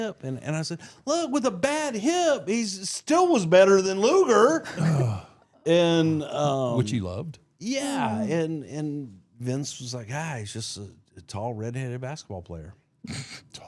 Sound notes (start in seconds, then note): 4.7 Mark groans